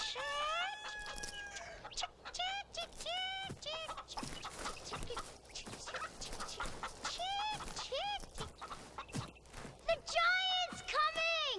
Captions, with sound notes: chick, (rooster crowing) chick chick, chick chick. (chickens clucking) The giant's coming!